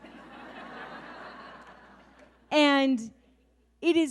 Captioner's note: audience laughs